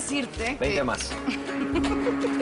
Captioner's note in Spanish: Risas